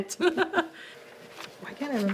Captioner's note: woman laughing